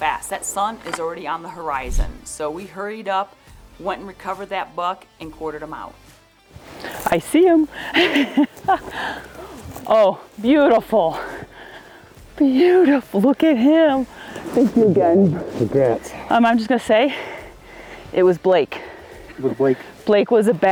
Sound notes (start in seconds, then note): 1.6 audio whooshes; 7.8 laughs